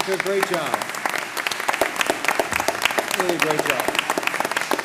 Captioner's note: applause